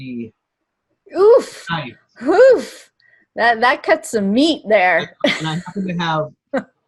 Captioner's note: laughs